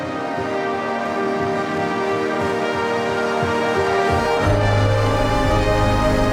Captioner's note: laughs; heartwarming music; fireworks pop